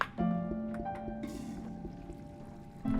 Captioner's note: toilet flushes